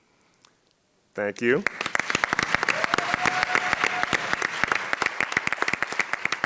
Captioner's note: audience cheers and claps